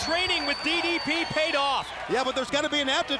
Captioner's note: crowd cheering